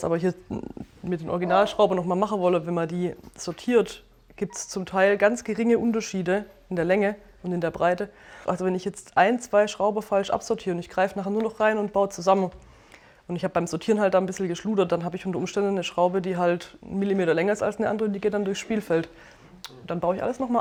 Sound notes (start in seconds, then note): none